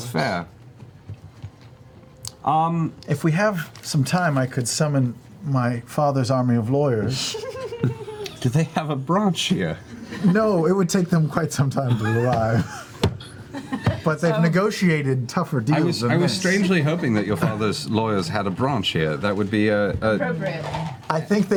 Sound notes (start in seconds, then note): 7.2 chuckles; 11.8 laughs